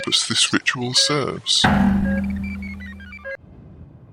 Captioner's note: metallic bang